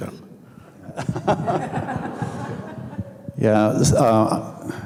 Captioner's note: audience laughing